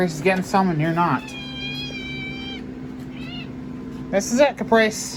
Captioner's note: Caprice meows